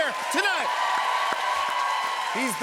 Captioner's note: cheers and applause